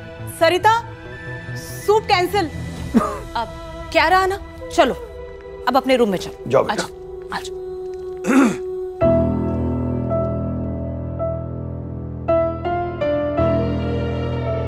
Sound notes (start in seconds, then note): 8.2 clearing throat; 12.0 tense music playing